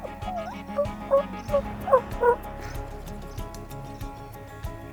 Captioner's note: turkey calling